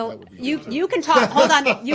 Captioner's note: laughter